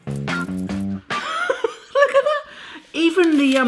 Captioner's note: laughs